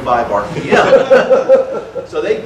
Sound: audience laughter

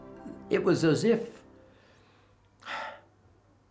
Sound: sighs

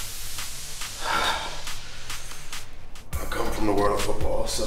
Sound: exhales

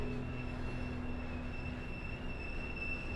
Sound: trains squeak and whir

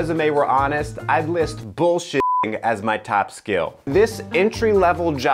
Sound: beep

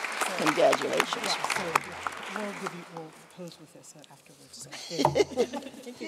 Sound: applause

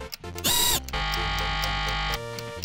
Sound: buzzer ringing

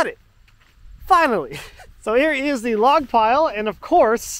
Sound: chuckles

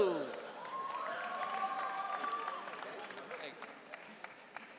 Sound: audience cheering

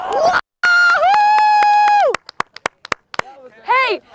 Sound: clapping

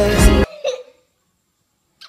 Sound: sobs

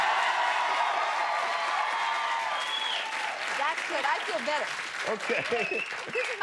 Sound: laughter

